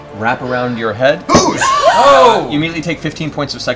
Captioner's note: gasping